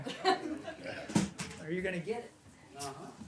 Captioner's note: laughter